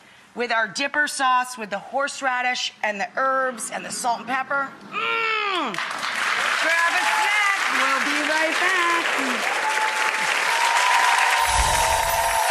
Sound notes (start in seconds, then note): 4.9 groans; 9.1 audience applauding